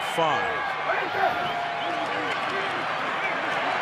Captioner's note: cheering